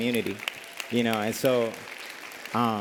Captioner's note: applause